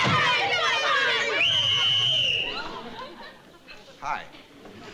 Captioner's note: yelling; whistle blowing